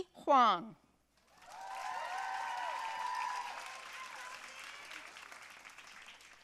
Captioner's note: audience cheering and applauding